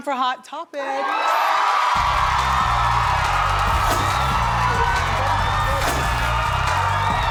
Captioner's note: audience cheers; upbeat music